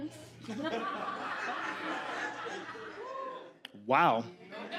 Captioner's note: audience laughs